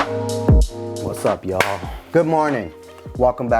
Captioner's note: claps